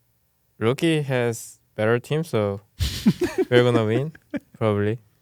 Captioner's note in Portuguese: risos